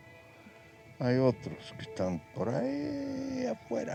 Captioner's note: speaking spanish